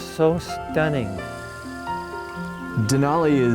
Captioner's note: grass rustling